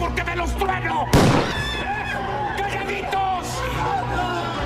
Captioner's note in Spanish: suena disparo